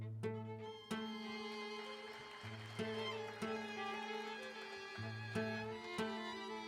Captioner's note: audience applauding